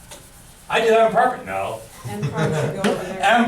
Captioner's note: chuckles; voiceover